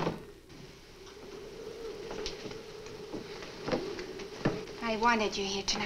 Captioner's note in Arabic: عواء الرياح المكتوم